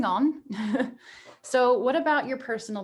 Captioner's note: chuckles